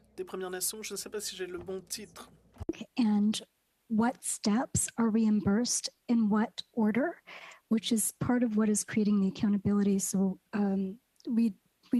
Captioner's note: speaking French